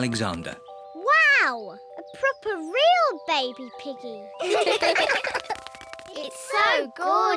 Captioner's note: all laugh